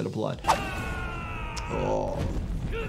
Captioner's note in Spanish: luchador gritando